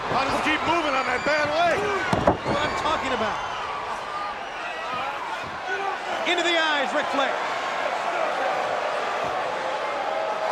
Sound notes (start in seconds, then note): 2.1 Ric thudding on ring; 4.3 crowd cheering; 8.0 crowd cheering